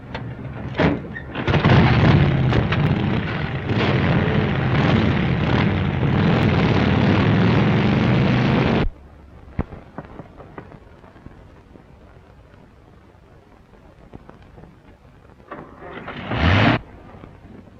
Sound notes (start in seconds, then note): 1.3 engines revving; 15.4 engine cranking